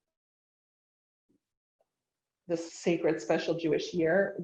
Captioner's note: none